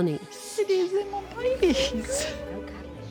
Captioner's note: tearfully